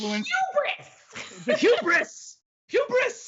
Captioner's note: laughs